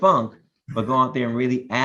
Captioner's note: laughs